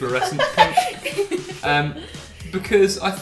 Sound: laughter

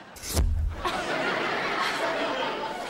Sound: laughing

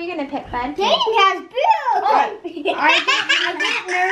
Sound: laughs

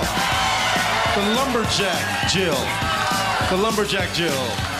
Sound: cheers and applause

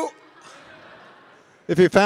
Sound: audience laughing

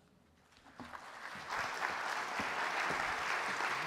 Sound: applause

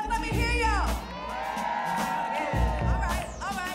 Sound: audience cheering

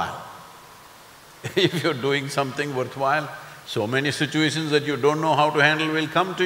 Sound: laughs

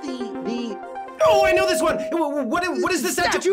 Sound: bell dings

